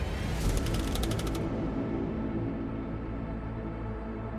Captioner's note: tense suspenseful music continues; text clicking